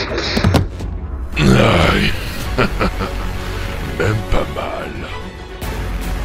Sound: cries in pain

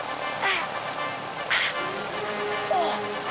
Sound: grunting

